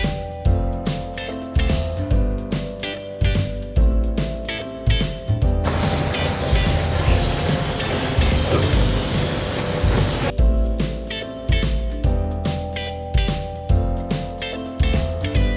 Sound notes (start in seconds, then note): 5.6 torch burning; 5.6 upbeat music